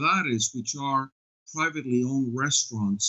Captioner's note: speaking spanish